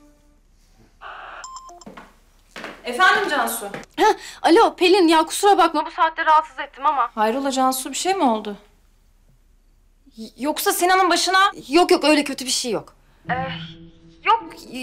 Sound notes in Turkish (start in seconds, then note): 1.4 Telefon zili sesi